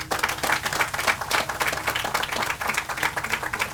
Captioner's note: audience applauds